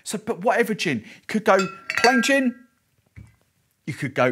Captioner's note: bottles clinking